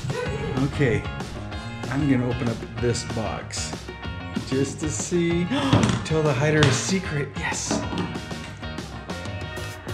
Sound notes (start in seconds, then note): 5.2 gasps